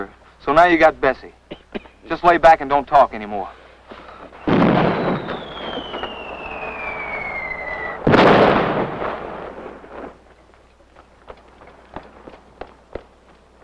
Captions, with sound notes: So, now you got Bessie, just lay back and don't talk anymore. [explosion] [approaching whistling sound] [explosion] [footsteps]